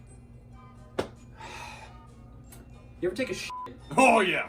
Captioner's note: sighs